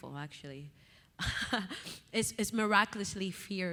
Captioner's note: chuckles